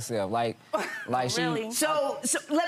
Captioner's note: laughs